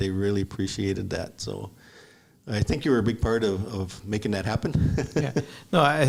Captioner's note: laughs